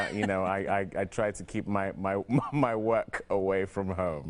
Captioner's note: laughing